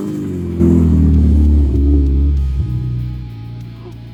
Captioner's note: laughing; grunting